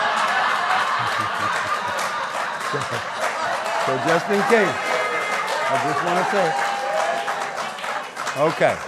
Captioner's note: laughter